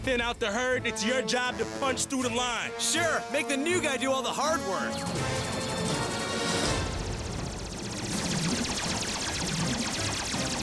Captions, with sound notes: VECTOR AND I'LL THIN OUT THE HERD. IT'S YOUR JOB TO PUNCH THROUGH THE LINE. SURE, MAKE THE NEW GUY DO ALL THE HARD WORK. (EXPLOSIONS) (WEAPONS FIRE RAPIDLY)